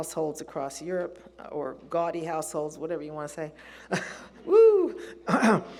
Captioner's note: laughs